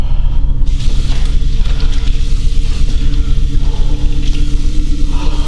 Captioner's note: water splashing